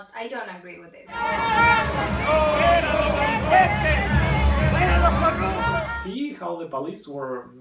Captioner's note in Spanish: gentío gritando